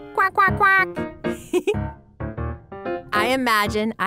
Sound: laughing

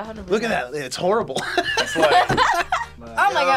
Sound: laughs

